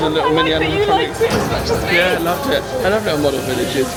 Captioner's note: laughing